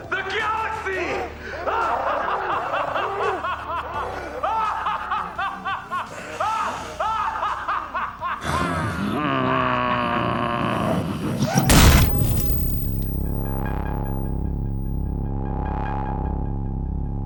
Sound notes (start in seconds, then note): 1.1 laughing; 11.6 explosion